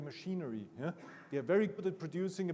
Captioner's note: attendee coughing